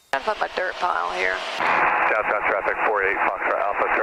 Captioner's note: radio chatter